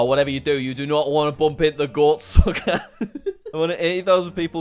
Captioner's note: laughs